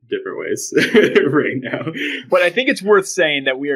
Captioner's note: laughs